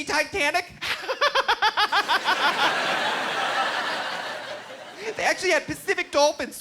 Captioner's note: laughing